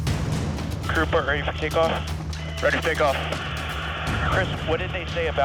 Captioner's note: helicopter blades chopping